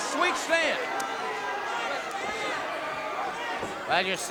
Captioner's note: crowd cheering